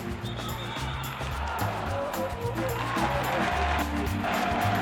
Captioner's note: crowd cheering